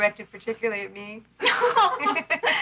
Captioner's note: laughing